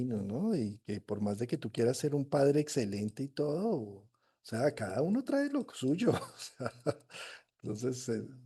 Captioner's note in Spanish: risas